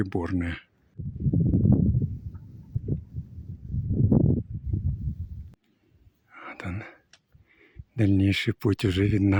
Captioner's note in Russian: ветер